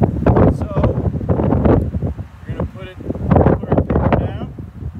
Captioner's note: wind noises over microphone